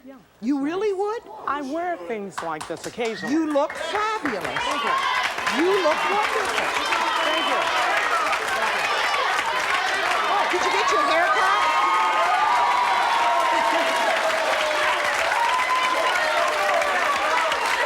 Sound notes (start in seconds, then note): 11.9 audience applauds